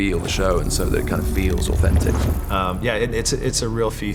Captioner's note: none